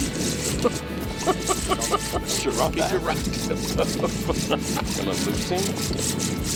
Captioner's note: reel whirring; man laughing